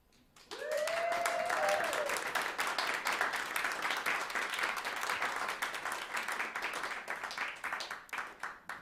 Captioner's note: applause